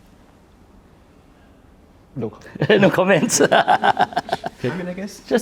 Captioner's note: laughs